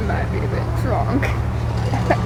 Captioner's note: chortles